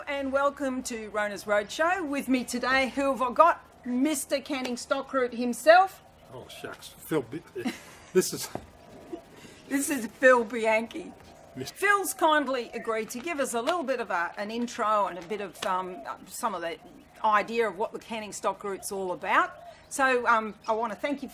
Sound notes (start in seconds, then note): 7.5 laughter